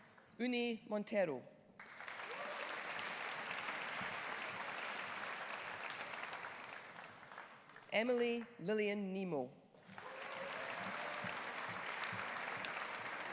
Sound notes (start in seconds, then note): 1.8 audience applauding; 9.8 audience applauding